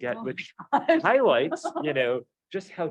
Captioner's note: laughs